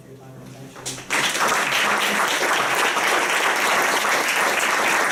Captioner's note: applause